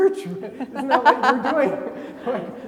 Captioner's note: laughing